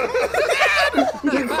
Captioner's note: yelling